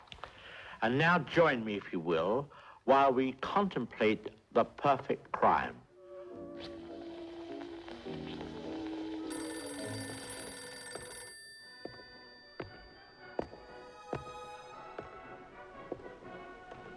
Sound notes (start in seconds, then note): 5.8 gentle music; 9.1 phone ringing; 13.5 suspenseful music